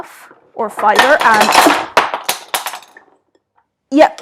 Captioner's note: clattering noises